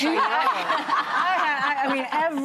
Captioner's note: laughing